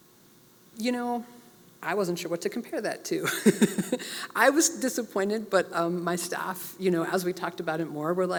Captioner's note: laugh